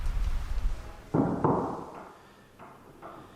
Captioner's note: hammering